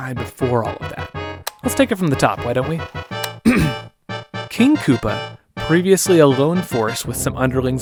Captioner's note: A’hem